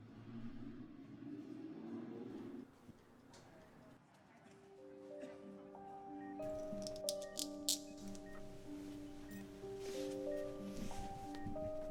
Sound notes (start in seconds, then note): 4.5 melodic music plays over heart monitor and hospital background noise; 6.5 clicking of the IV bag lock; 8.6 melodic music plays over heart monitor and hospital background noise